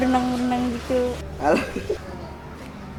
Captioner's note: laughs